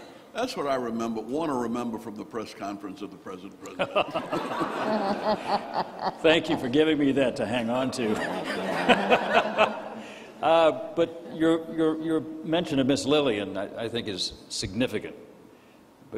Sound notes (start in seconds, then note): 3.7 all laughing; 8.0 laughs